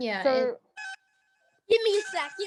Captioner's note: phone ringing